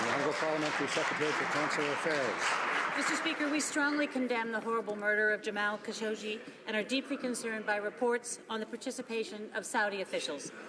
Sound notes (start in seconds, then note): 0.0 some Applause